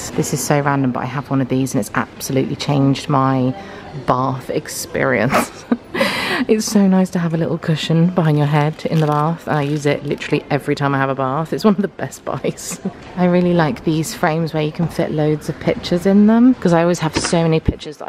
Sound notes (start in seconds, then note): 5.3 laughs